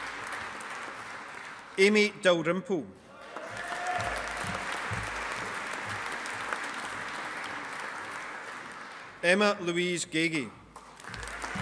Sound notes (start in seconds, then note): 3.2 audience applauding; 10.7 audience applauding